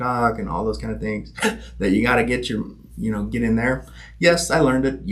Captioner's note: gasping